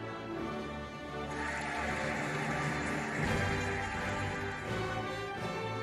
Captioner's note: cheering and applauding